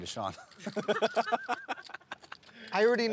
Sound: laughter

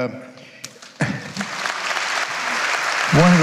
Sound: audience applauding

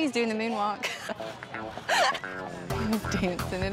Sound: laughing

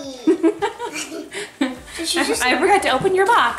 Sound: laughing

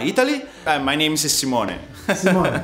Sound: laughs

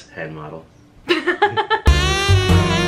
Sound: laughs

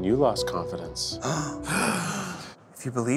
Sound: gasping

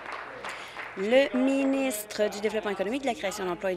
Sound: applause

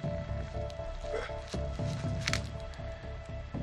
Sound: animal grunt

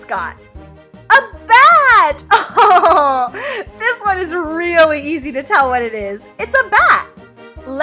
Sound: laughs

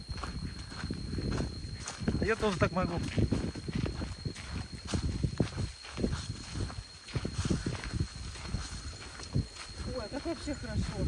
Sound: the wind blew

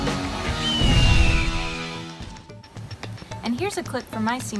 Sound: eagle screeching; figures whooshing

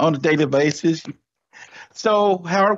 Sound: clapping

